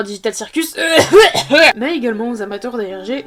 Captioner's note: koff